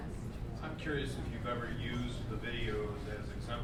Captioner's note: voiceover